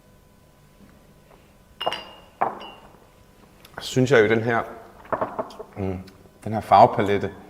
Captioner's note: bell rings